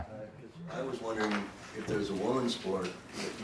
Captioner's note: voiceover